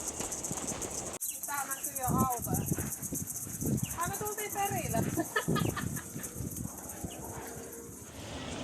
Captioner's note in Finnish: naurua